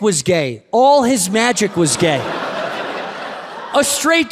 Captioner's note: audience laughs